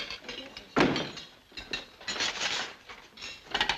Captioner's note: door thuds